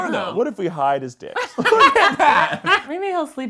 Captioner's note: laughs